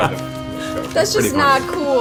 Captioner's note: all laugh